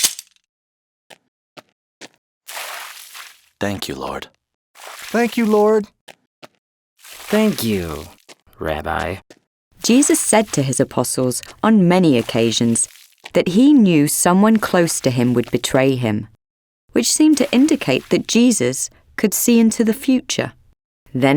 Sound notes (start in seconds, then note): 0.3 footsteps crunching; 2.4 water splashing; 4.8 water splashing; 7.0 water splashing